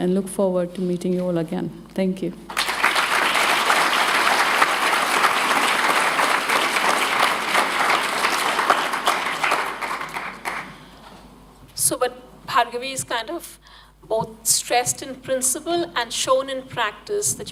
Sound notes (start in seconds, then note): 2.5 applause